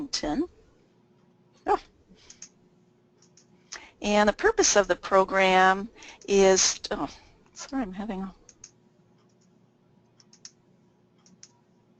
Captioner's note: clicking